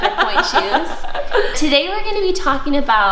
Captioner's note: laughter